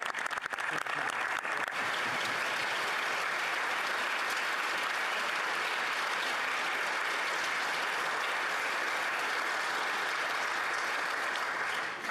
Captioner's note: applause